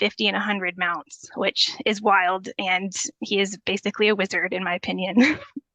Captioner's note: chuckles